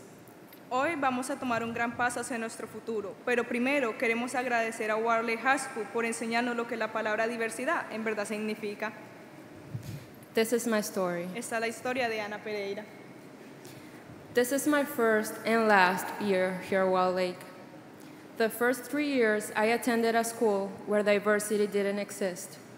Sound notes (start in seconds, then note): 0.2 speaking Spanish